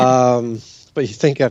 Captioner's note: chuckles